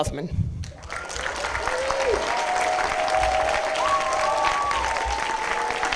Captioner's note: applause, cheering